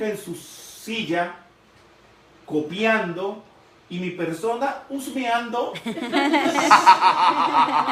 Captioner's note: laughing